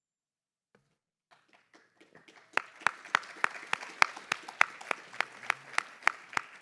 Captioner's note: applause